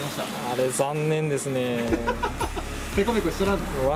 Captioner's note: laughs